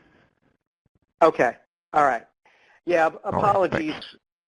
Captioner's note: voiceover